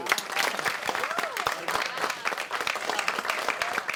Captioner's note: applauding